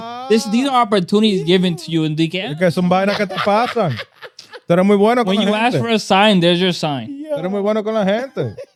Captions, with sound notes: These are opportunities given to you in decal. (Laughing) When you ask for a sign, there's your sign.